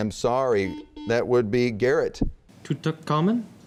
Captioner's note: buzzing